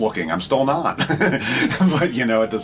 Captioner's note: laughs